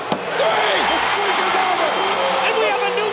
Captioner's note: bell rings